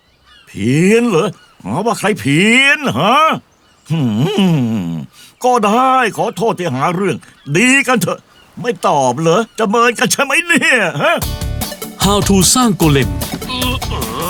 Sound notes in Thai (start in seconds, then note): 3.8 ส่งเสียงไม่พอใจ